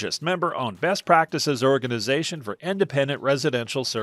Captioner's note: voiceover